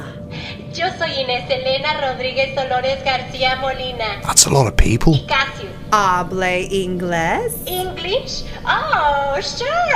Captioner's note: in English